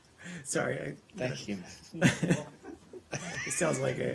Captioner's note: laughter